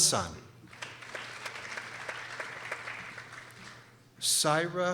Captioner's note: people applauding